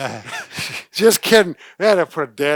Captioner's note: laughs